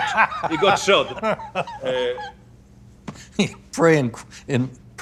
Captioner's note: laughing